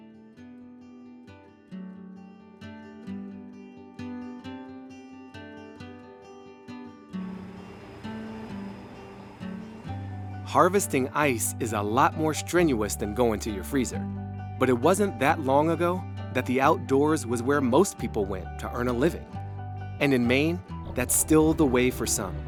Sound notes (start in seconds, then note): 0.3 cheerful guitar music; 7.2 boat motor whirring